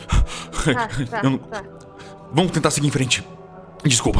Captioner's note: stutters